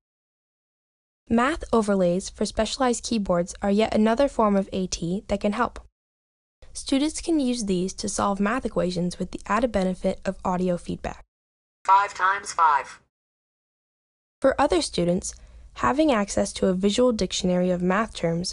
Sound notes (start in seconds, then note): 11.6 calculator Voice